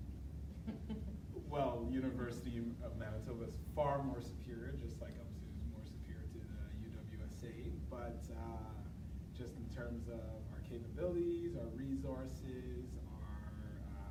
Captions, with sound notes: (chuckling) - Well, University of Manitoba is far more superior, just like UMSU is more superior to UWSA, but, just in terms of our capabilities, our resources,